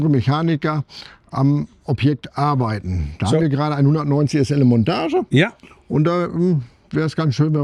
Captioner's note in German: räuspern